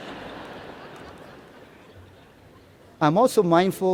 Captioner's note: laughter